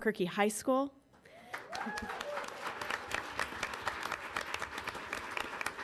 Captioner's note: audience applauding